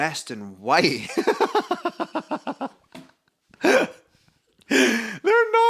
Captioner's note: laughs heartily